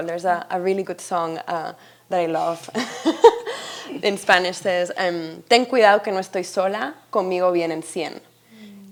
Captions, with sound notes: There's a really good song that I love (chuckles) in Spanish says, (speaking in Spanish)